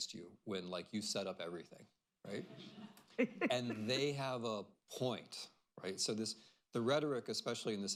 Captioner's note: laughter